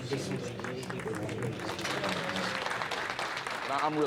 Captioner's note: clapping